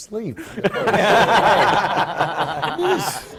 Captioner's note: laughter